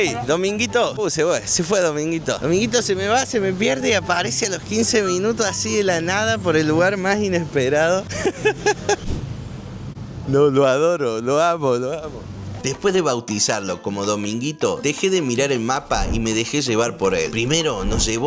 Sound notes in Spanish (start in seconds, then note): 8.1 risas